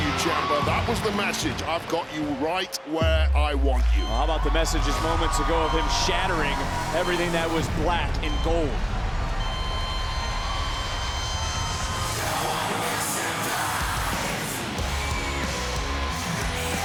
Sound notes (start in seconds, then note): 9.6 EKG machine flatline beeping; 13.7 faint upbeat music